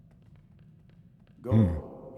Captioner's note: grunts